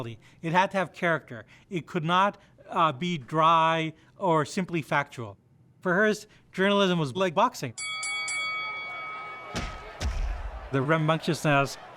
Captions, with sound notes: it had to have character, it could not be dry or simply factual. For Hearst, journalism was like boxing. (bell rings) (punching sounds) The rambunctiousness,